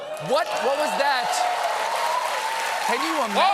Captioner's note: cheers and applause